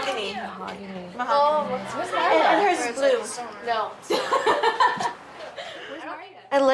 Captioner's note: laugh